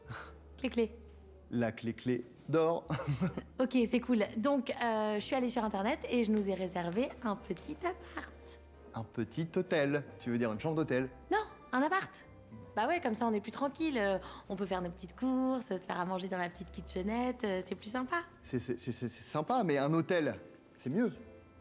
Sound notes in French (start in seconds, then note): 2.9 rire